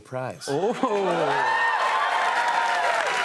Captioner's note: cheers and applause